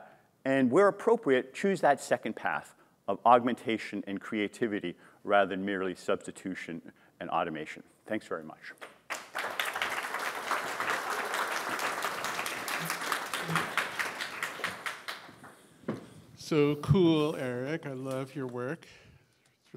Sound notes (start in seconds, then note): 8.8 applause